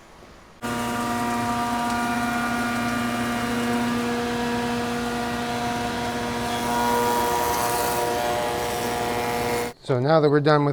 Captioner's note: saw buzzes loudly